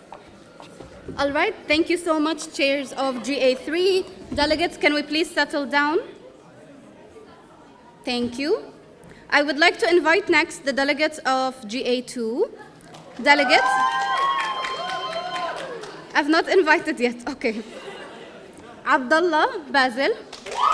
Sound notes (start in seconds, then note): 13.2 audience cheering; 20.4 audience cheering